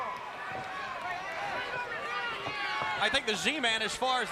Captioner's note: crowd chatter